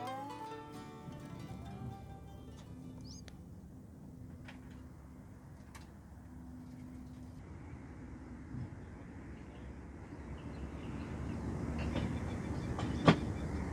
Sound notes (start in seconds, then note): 2.8 swallows chirping